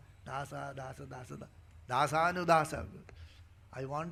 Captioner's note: speaking in Sanskrit